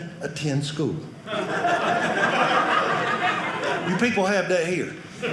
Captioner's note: audience laughing